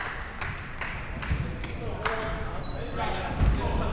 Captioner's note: clapping